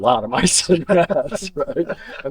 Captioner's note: laughter